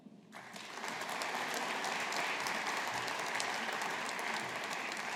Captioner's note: audience applauding